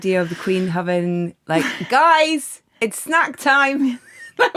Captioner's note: laughs